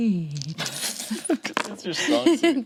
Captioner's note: group chuckles